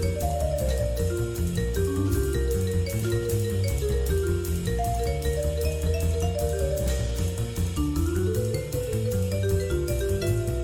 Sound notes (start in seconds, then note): none